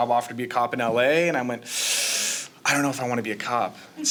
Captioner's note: sharp inhale